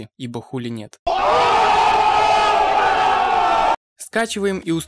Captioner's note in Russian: Афроамериканцы кричат в восторге